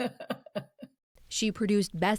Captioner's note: laughter